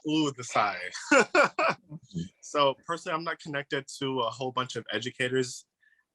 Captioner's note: laughs